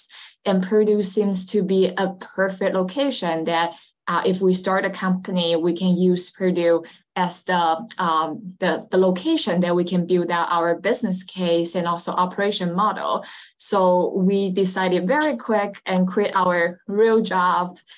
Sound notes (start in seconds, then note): none